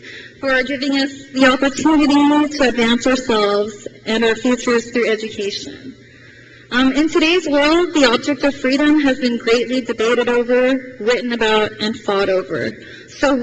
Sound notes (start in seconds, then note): none